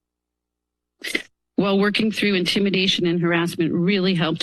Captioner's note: sniffs